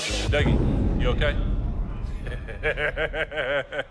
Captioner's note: laughs